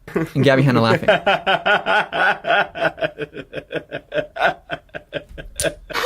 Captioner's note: laughs